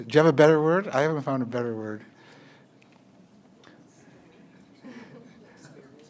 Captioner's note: audience chatter